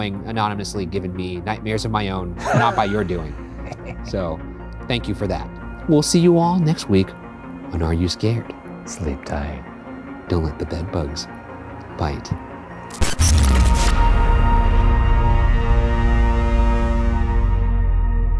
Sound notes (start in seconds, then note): 2.4 laughing; 12.9 static buzzing; 15.4 dramatic music